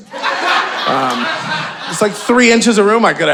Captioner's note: audience laughing